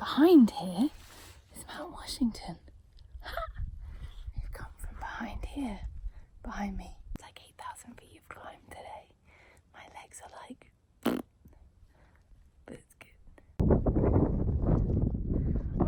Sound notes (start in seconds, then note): 11.0 blows raspberries